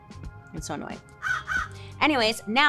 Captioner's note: birds cawing